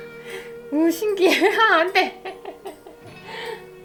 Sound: laugh

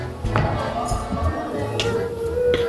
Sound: thud

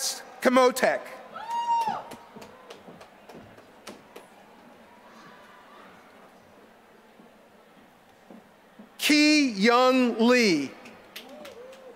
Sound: applause

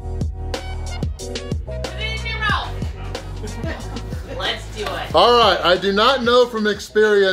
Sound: crowd

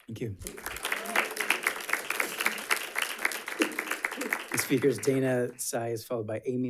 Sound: audience applauding

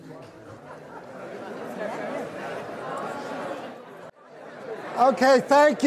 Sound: audience talking to each other

